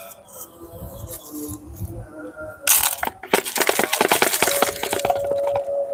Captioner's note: sound of Shaking Glass Shards